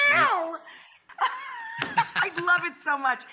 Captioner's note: laughs